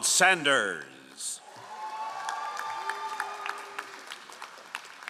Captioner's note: all applauding